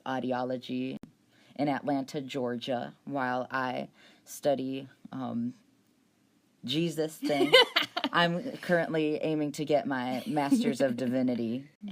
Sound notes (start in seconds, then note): 7.2 laughs